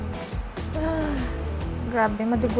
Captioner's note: sighs